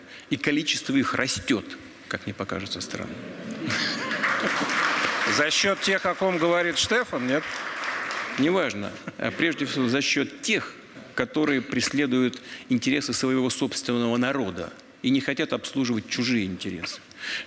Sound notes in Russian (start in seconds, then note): 3.6 Аплодисменты